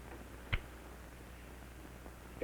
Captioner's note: light clicks off